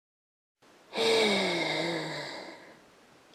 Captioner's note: agressivly sighs with hatred for this frigging cat